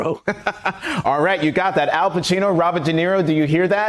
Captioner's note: laughter